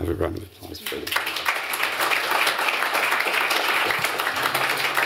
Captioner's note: applause